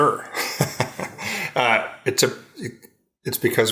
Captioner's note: laughs